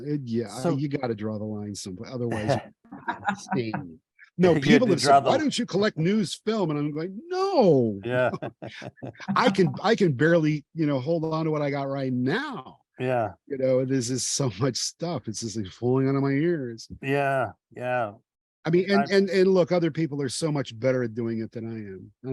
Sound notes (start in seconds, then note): 6.9 laughing